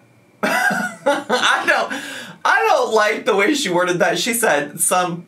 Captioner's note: laughs